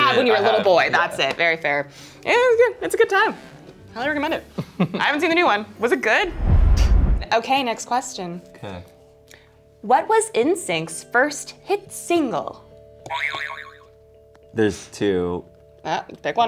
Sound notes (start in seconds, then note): 13.2 springing sound